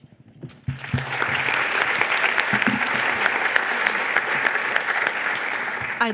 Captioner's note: applause